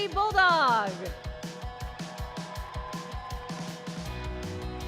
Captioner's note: applause and cheering